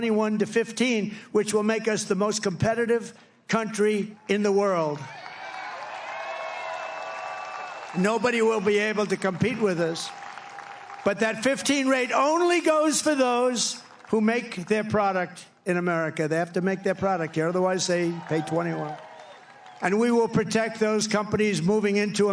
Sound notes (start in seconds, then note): 8.6 applause